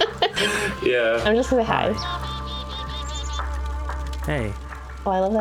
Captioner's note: laughs; beeping